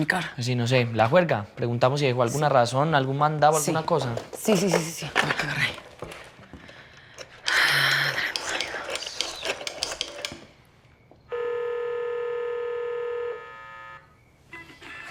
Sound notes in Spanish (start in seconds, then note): 7.2 Sonido al marcar